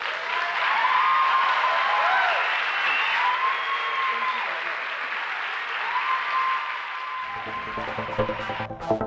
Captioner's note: applause